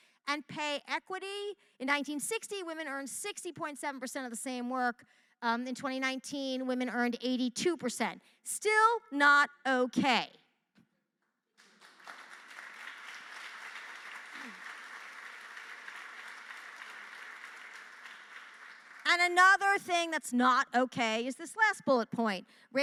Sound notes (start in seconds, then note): 11.5 applause